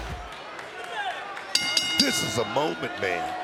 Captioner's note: bell rings